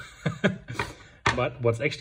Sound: laughs

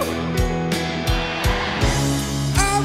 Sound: crowd

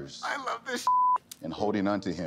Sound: beep

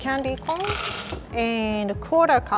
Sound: candy corns rattling

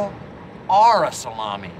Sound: none

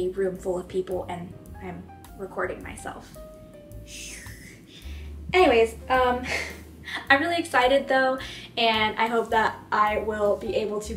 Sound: hiss of discomfort

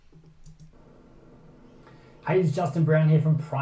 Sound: air conditioner humming

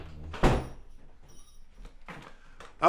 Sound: door slams

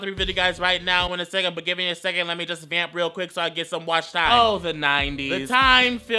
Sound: talks so fast that you can't understand

